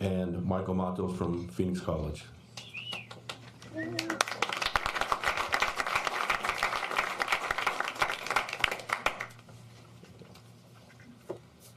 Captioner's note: applause